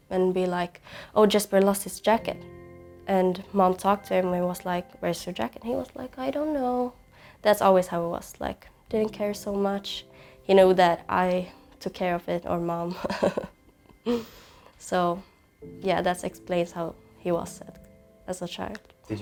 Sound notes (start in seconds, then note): 13.0 laughs